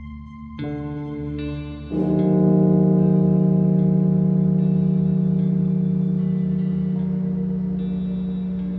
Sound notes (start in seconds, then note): 1.8 bell tolling; 5.9 somber music